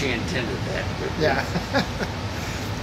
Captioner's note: laughs